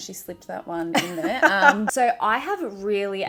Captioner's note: laughing